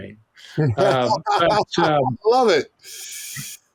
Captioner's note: laughing